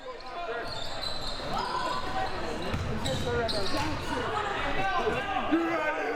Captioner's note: audience chattering and yelling